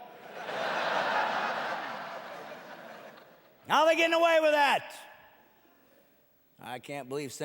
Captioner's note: laughing